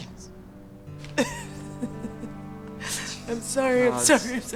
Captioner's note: chuckles